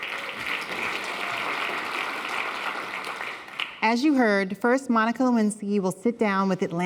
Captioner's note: applause